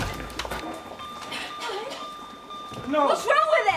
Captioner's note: monitors beeping rapidly